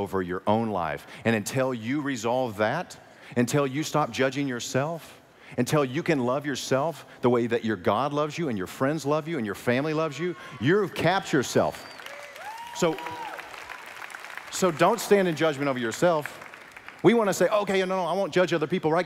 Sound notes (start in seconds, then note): 11.6 applause